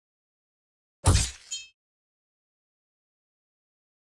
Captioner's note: weapon thumps